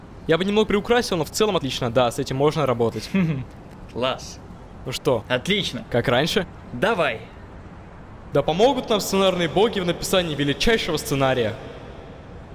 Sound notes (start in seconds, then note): 3.0 laughs